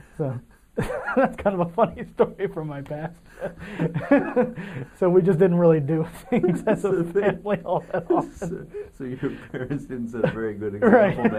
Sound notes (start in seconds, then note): 3.7 laughing